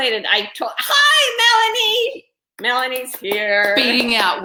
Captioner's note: clapping